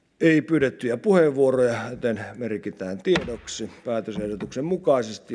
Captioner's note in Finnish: kopauttaa nuijaa